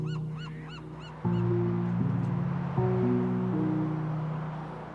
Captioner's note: wind whooshes